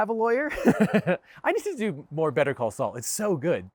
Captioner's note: chuckles